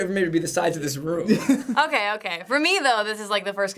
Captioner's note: laughing